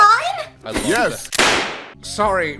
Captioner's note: bang